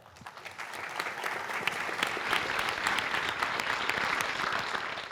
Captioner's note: applause